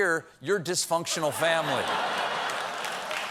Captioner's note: laughter; applause